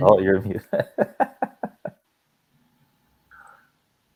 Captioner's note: giggles